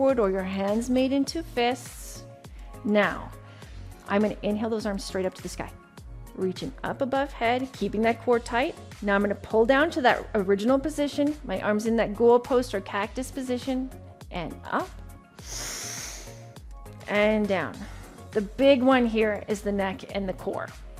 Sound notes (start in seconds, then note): 15.4 inhales